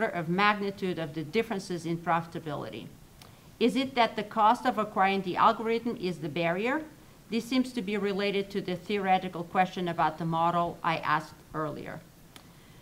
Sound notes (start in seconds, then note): none